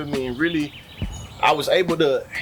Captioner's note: birds Chirping